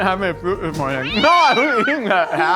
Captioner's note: cat Meow